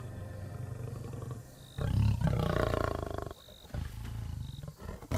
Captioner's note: lion snarling